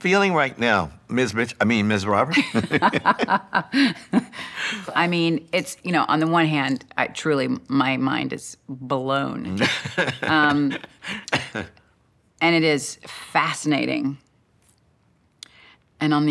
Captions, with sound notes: -What are you feeling right now, Ms. Mitch-- I mean Ms. Roberts? [laughter] -I mean, on the one hand, I truly-- my mind is blown. -[laughs] -And it is fascinating.